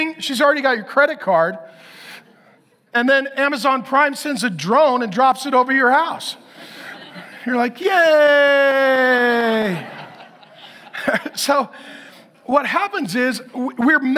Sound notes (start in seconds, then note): 10.7 laughs